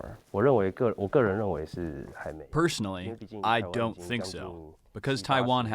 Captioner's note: through translator